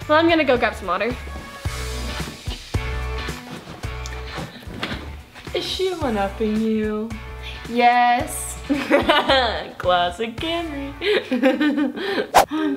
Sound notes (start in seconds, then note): 2.5 upbeat music; 8.9 laughing